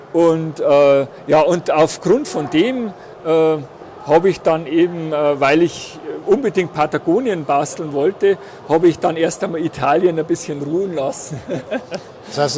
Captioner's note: laughs